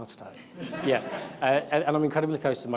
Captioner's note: audience laughs